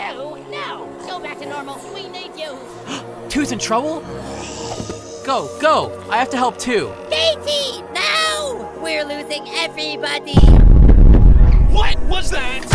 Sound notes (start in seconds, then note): 2.8 gasp; 10.4 loud banging